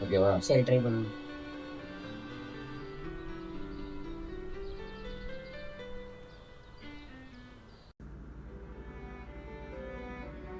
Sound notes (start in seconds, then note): 3.8 birds chirping; 6.1 dramatic music; 9.9 dramatic music plays